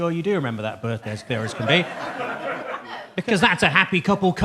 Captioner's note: audience laughs